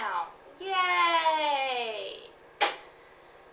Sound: sarcastic

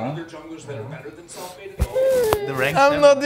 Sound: sniffles; whines

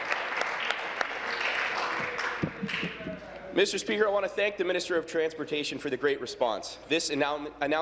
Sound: applause

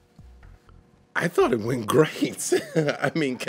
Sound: laughs

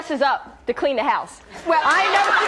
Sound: audience laughs

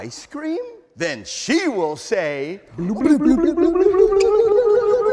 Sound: both blubbering

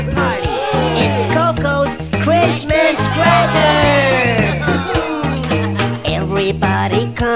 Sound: cheering

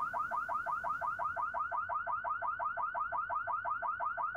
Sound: car alarm blaring; car alarm blaring

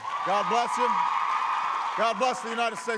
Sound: applause

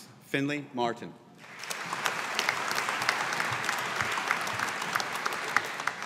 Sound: audience applauding

